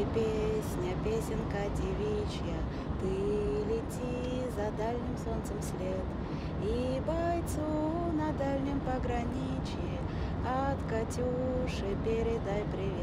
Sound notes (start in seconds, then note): none